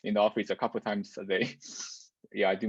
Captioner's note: laughs